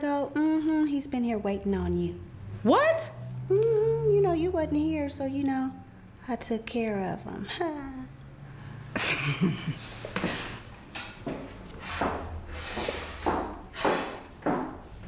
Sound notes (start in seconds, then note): 7.3 chuckling lightly